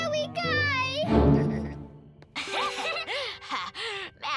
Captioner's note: both laugh